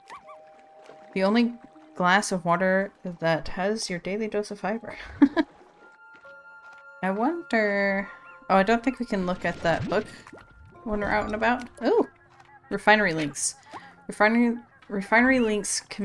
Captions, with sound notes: The only glass of water that has your daily dose of fiber *laughs* I wonder- oh I don't think we can look at that book when we're out and about. Oh Refinery link:s Refinery- Refinery links